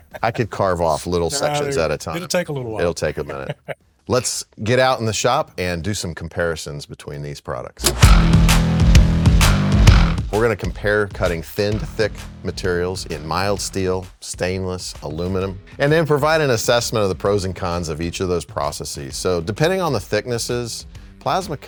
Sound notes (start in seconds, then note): 2.1 laughing; 7.8 lively rock music